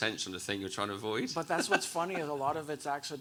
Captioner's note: chuckles